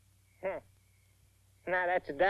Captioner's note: Billy scoffs